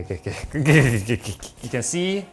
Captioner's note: giggles